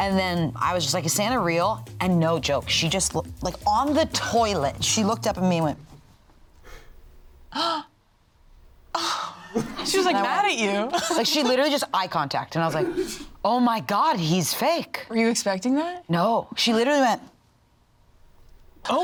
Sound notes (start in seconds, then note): 7.5 gasps